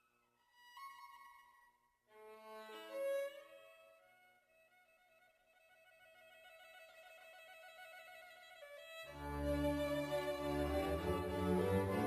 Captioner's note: speaking French